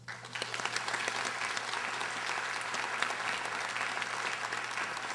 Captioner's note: audience applauding